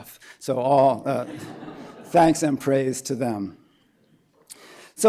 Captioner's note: laughter